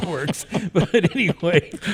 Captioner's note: all chuckle